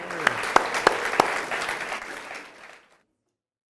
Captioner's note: audience applauds